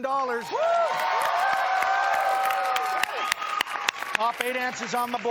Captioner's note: cheers and applause